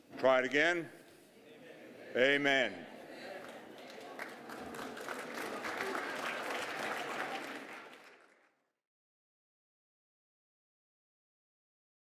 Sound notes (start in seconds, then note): 4.8 applause